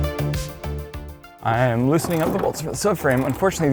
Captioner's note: bolts sound